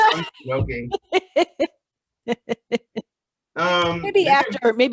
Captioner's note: laughter